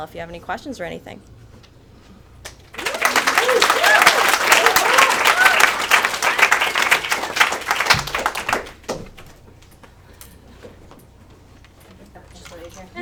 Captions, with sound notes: if you have any questions or anything. (audience cheers and applauds)